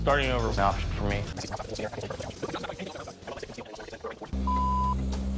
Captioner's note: JoJ speaking backwards, going back in time